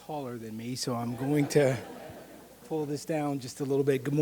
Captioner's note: audience laughing